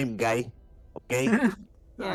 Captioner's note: laughs